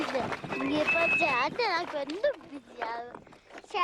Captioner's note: tibetan spoken audio